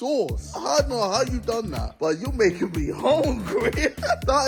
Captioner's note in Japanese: 笑い